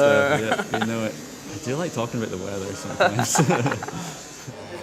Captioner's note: laughter